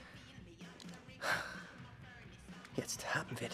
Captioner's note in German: seufzt